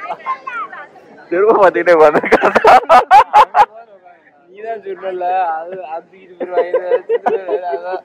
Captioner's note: laughs